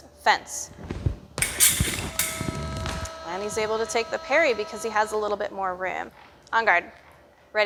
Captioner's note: metal scraping